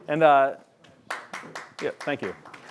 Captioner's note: applause